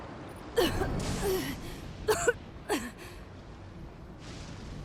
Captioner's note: coughing